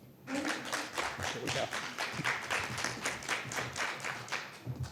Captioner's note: audience applauding